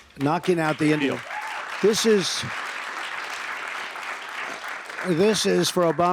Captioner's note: applause